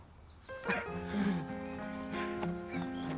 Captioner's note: chuckles